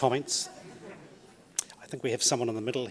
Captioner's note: audience chuckles